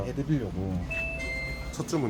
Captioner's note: POS. Ding dong